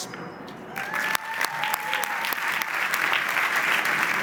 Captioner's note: audience applauds